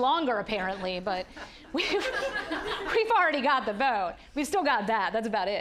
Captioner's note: audience laughing